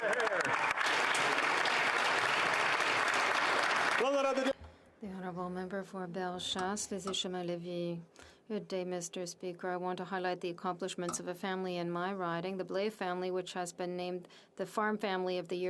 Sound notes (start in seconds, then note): 4.1 some Applause